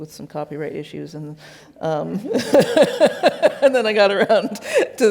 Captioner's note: laughs